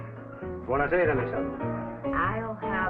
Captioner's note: Italian